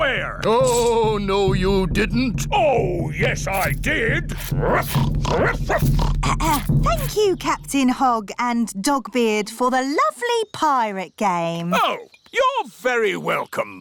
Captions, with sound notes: -Oh, no, you didn't! -Oh, yes, I did! -(BARKS) -(OINKS) (CLEARS THROAT) Thank you, Captain Hog and Dogbeard, for the lovely pirate game. Oh, you're very welcome.